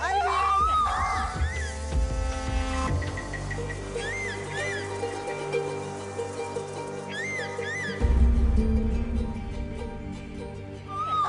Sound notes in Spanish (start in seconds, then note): 3.0 Graznidos